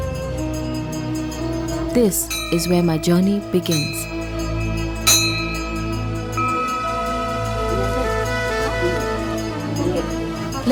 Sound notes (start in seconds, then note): 0.0 soft gentle music; 3.5 bell jingles; 6.3 soft gentle music